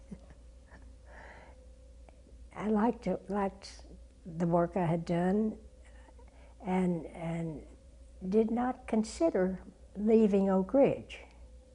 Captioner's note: laugh